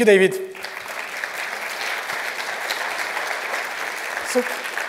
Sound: applause

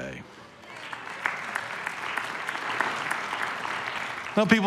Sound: congregation applauds

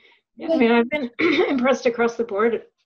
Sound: clears throat

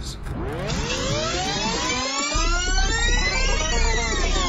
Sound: audio rewind screeching

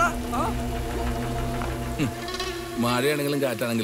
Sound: laugh

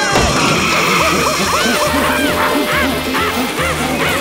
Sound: gorilla sounds

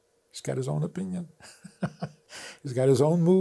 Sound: laughs

